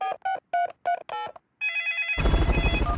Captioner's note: dialing; phone ringing